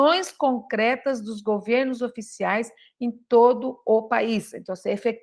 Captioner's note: reads Portuguese